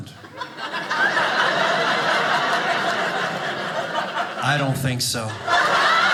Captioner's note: audience laughing